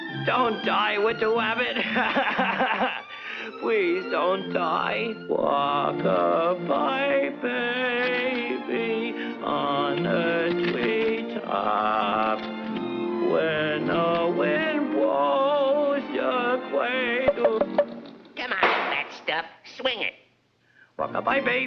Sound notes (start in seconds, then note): 2.8 crying; 17.2 knuckles tapping